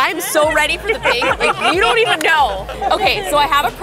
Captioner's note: laughs